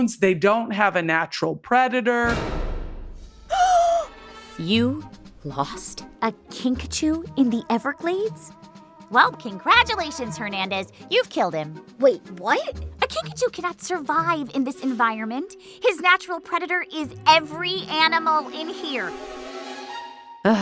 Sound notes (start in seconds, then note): 3.5 troop girl gasping; 3.6 whimsical music